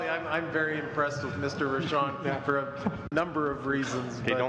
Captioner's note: laughter